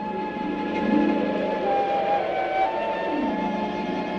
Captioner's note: wind whistling